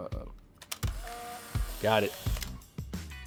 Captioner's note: camera clicks